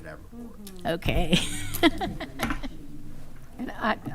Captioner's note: laughing